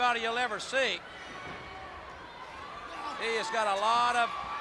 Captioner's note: crowd chatter